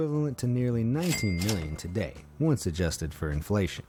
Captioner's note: cash register ringing